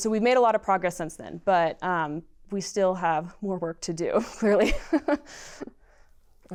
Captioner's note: laughter